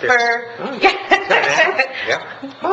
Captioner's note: laughs